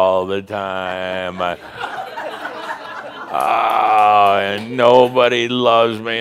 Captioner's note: more laughter